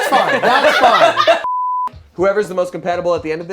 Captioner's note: laughter; beep